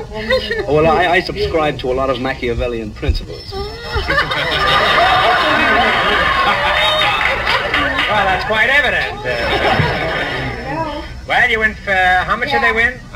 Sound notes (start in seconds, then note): 3.8 audience laughs